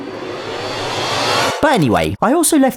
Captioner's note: scary noises